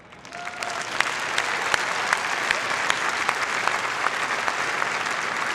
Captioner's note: applause